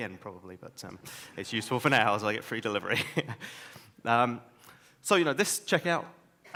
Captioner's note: laughs